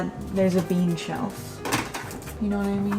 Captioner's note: can clanks